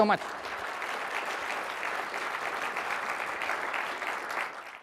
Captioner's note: audience applauds